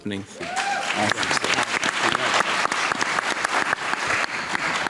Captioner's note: audience applauding